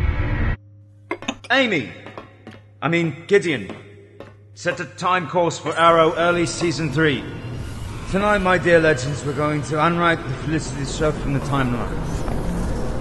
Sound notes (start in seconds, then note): none